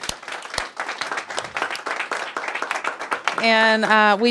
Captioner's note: applause